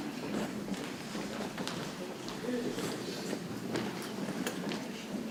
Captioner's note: people chattering softly